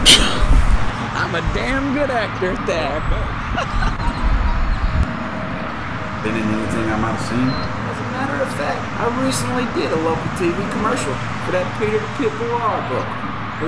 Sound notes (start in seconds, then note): 3.4 laughs